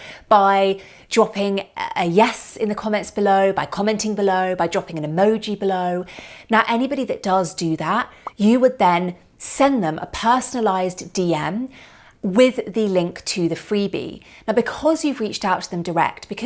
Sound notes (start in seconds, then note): 8.2 popping